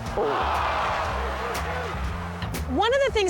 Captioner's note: crowd groans